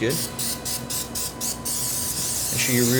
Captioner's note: can spraying